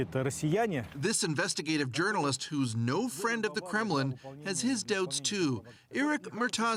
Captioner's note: speaking russian